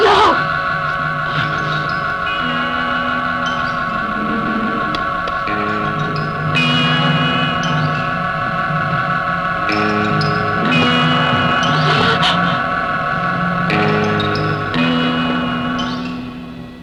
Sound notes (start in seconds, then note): 11.8 gasping